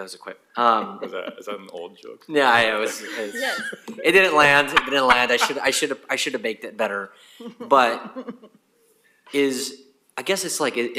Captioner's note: laughter